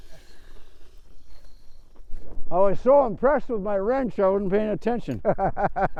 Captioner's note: laughing